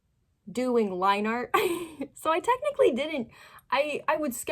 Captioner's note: laughing